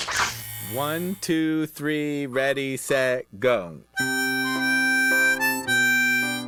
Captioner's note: metronome clicking